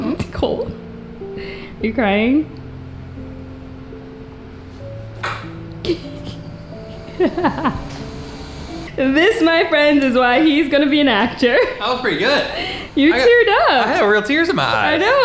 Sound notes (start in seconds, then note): 2.9 soft music; 6.9 laughs